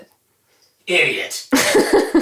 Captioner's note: voiceover